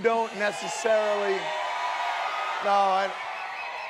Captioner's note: audience shouting